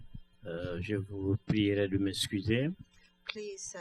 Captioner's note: speaking french